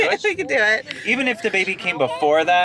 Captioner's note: laughs